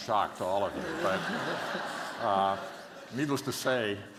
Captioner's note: laughter